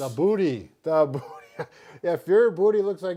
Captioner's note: laughs